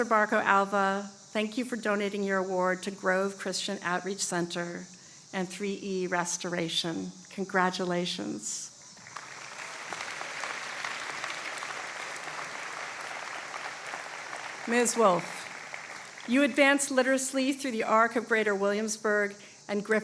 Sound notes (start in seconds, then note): 9.0 applause